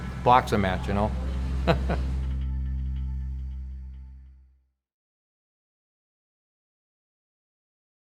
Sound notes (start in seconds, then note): 1.6 laugh